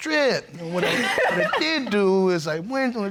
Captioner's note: laughing